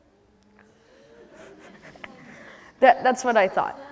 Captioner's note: laughter